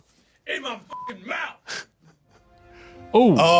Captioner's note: beep